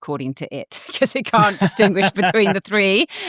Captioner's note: chuckles